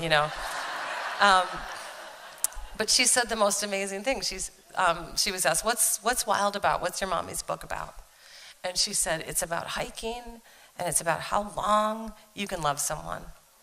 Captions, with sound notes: [Laughter.] But she said the most amazing thing. She was asked, what's Wild about? What's your mommy's book about? And she said, it's about hiking, and it's about how long you can love someone.